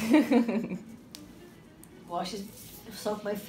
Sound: laughs

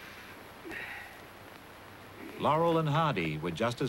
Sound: sniff

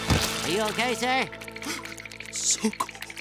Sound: teeth chattering

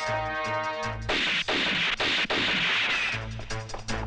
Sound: gun Firing

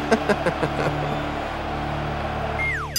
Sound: laughing

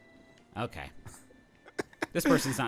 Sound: laughing

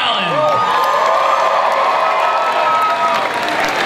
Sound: cheers, applause

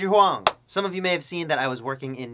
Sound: clap

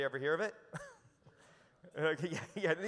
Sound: chuckles

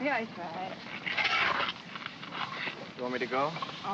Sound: shovel scrapes

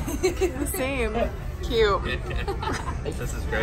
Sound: laughing

